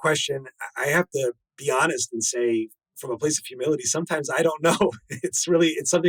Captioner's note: laughs